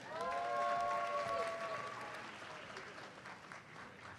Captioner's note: audience cheers and applauds